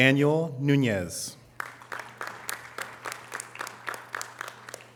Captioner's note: audience applause